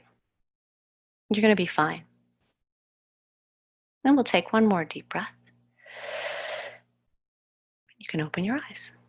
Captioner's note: breathes in